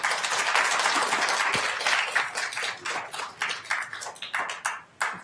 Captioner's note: attendees applauding